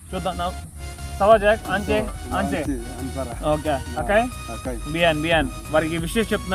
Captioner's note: speaking in Foreign language